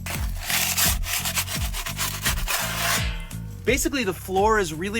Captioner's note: paddle scraping on stove